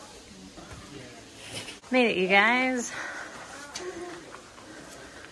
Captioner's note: heavy breathing, lots of stairs